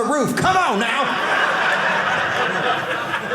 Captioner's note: audience laughing